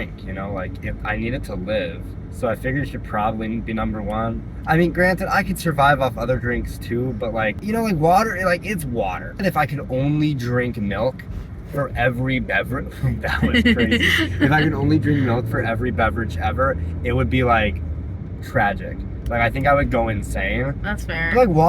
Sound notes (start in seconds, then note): 13.1 laughter